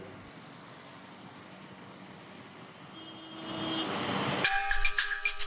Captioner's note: sound of traffic